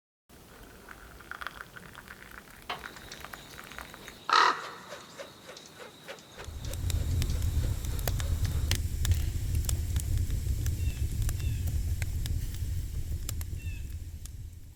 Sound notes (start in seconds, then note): 4.2 bird squawking; 6.2 fire crackling